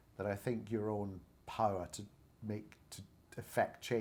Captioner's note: none